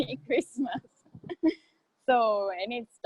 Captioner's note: laughing